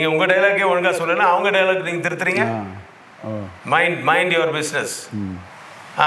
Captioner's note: continues in English